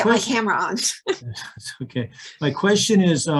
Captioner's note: both laughing